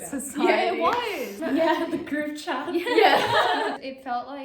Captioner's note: laughs